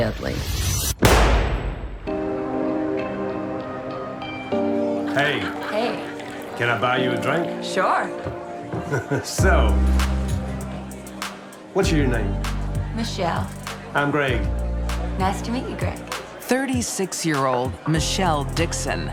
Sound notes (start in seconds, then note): 0.9 gunshot; 8.7 chuckles